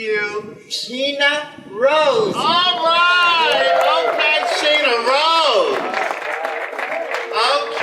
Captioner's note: audience applause